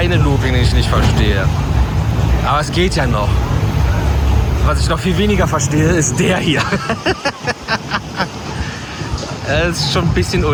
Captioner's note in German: gelächter